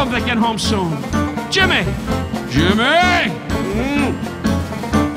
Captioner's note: Don groaning